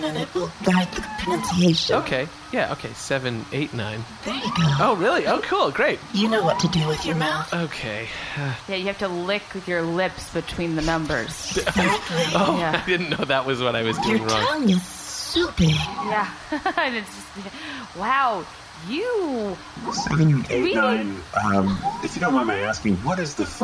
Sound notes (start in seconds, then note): 6.4 seductive; 10.7 laughing